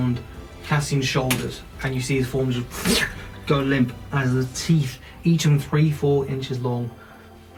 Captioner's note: wooshing sound